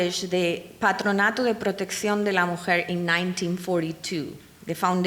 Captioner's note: speaking in foreign language